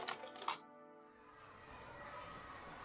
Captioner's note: children playing in background